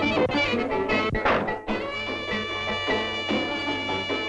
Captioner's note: door banging